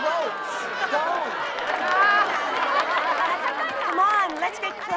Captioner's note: laughter